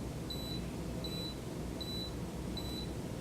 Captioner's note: machine beeps; machine beeps